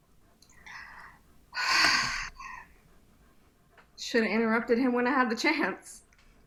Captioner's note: sighs